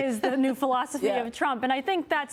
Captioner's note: laughter